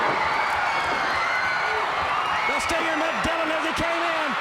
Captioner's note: crowd cheering